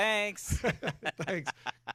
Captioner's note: both laughing